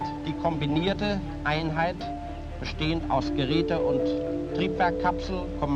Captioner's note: speaking German